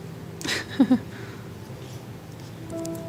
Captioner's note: laughs